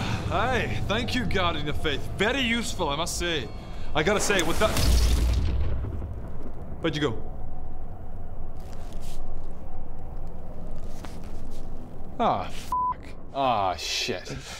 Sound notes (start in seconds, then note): 4.2 thunder